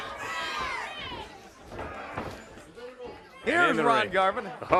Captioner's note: crowd chatter